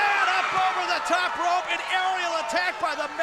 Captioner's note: crowd cheering